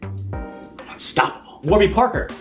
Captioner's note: whispering